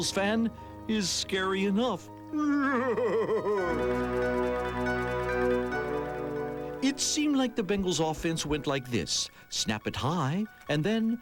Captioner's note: eerie laugh